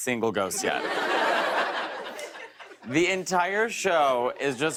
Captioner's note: laughter